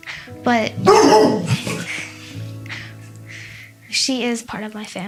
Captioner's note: barks